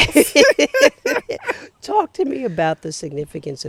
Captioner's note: both laughing